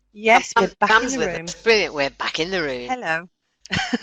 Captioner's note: laughs